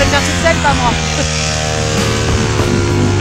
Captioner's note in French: bruit de décollage